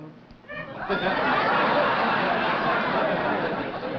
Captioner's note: laughter